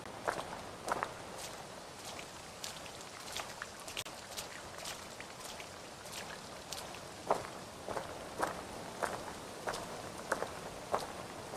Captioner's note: rain drops